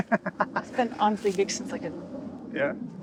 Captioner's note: laughing